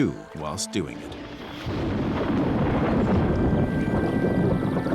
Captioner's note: thunder crashing